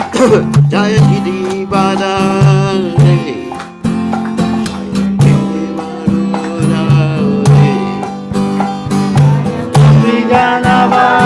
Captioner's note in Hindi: तालियाँ